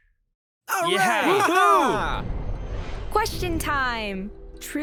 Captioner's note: boys cheering